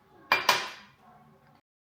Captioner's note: in Mongolian; the sound of setting down a cup